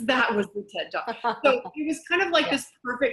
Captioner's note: laughs